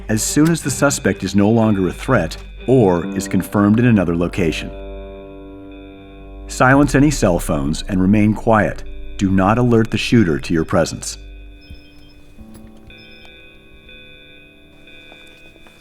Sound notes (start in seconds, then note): 11.6 cell phone text message alert sound